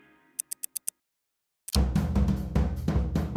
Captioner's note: clock ticking; upbeat music